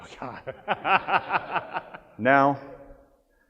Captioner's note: laughs